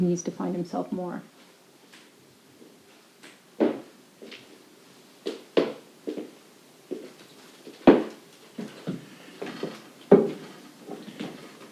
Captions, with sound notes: who needs to find himself more. (footsteps tapping)